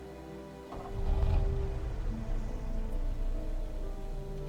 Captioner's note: car starting